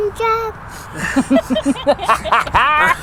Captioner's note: laughing